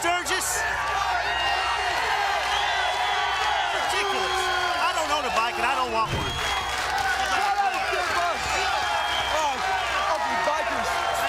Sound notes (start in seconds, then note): 3.4 crowd cheering